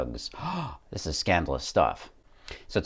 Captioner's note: gasp!